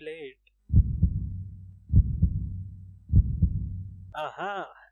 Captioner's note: dramatic Heartbeat